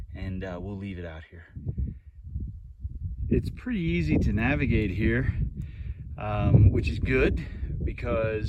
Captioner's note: wind blowing